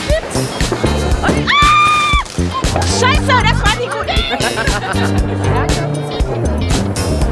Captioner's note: laugh; scream; speaking German